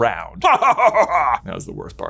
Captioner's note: laughs